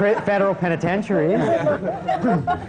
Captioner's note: laughter